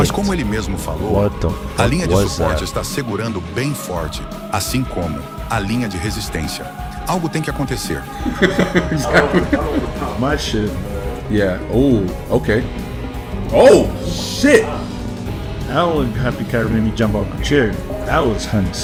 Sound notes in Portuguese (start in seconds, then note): 8.1 risadas